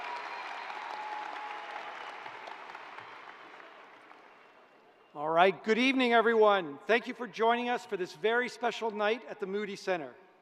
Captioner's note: cheers and applause